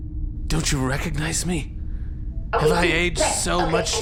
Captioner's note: dramatically